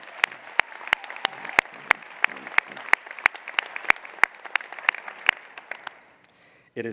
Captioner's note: applause